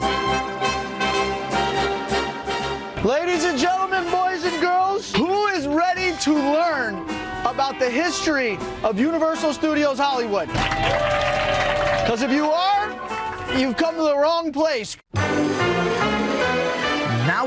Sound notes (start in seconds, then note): 10.4 group applauding; 15.1 happy music